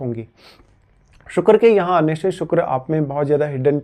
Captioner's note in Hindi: नाक से की जाने वाली आवाज़